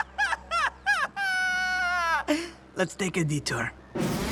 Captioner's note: laughs